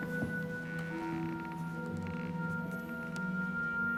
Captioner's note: floor creaks